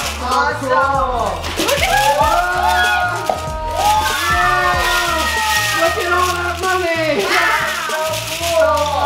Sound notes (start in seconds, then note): 1.6 cheering